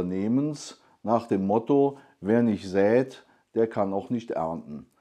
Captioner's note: German